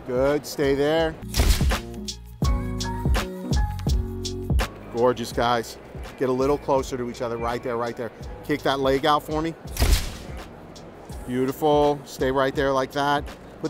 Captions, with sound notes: Good. Stay there. (camera shutter snaps) (relaxed lo-fi jazz music) Gorgeous, guys. Get a little closer to each other. Right there, right there. Kick that leg out for me. (camera shutter snaps) Beautiful. Stay right there like that.